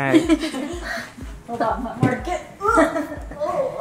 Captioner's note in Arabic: يضحك